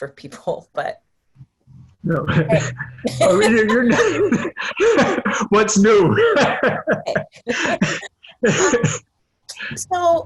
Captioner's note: laughter